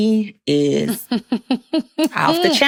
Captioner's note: chuckles